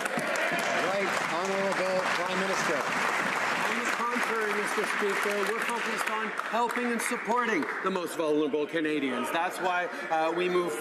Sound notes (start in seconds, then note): 2.3 some Applause